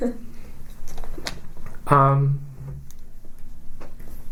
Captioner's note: laughs